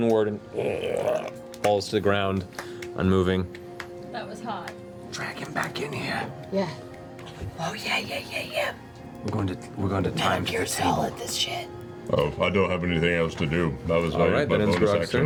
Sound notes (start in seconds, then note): 5.2 whispers